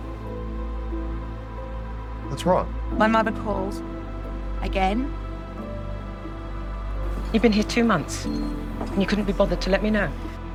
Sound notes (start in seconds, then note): 2.3 voiceover; 7.4 voiceover